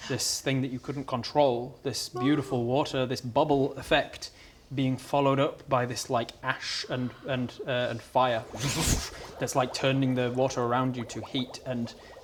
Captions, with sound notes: this thing that you couldn't control this beautiful water, this bubble effect being followed up by this like ash and uh and fire *whoffshsh* it's like turning the water around you to heat and